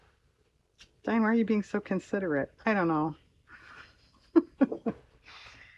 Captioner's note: laughs